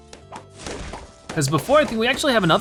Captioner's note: balloons popping